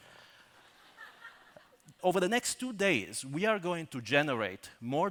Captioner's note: laughter